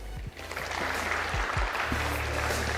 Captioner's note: audience applauding; upbeat music